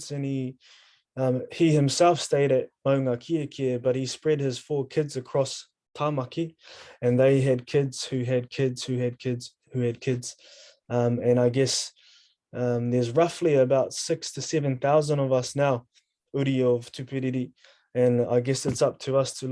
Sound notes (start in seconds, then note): 16.6 speaking in foreign language